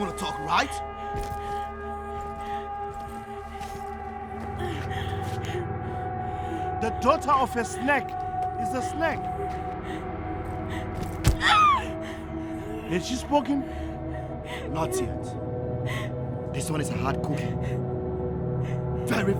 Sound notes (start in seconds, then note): 11.4 wailing; 11.7 thudding